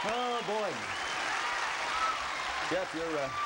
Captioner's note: cheering